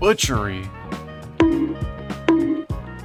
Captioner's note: cartoon bonk